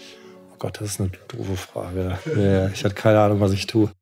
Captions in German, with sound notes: Gott, das ist ne doofe Frage Jaja, ich hatte keine Ahnung was ich tue. (lachend)